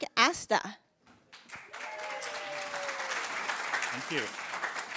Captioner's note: applause